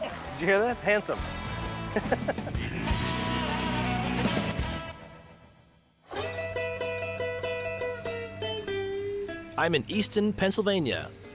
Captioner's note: laughs